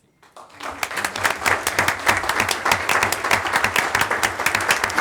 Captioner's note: audience applauding